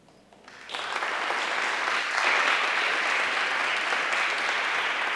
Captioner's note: audience applauding